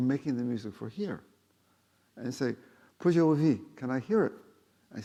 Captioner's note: speaking foreign language